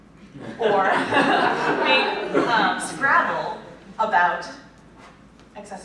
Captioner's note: laughter